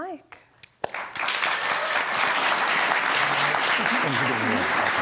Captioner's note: audience clapping